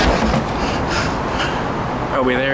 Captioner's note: lethargic percussion music; panting